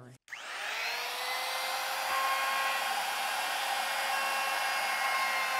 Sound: trim router motor running

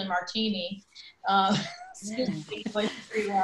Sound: laughter

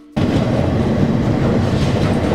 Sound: train passing

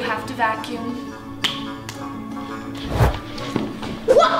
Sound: clapping

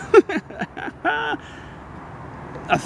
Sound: laughing

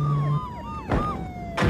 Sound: gunshot

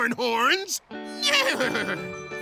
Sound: neighing

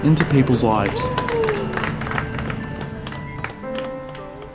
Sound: clapping

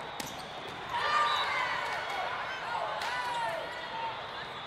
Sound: players cheer

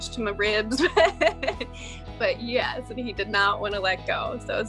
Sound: laughs

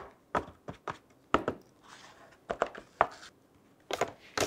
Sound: none

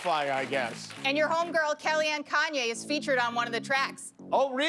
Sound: applause

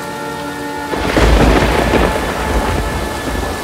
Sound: thunder rumbling

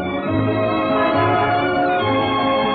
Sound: horn blares

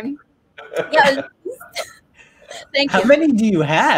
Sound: laughing

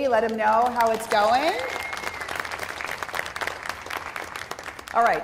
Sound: applause

